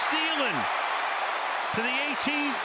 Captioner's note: cheering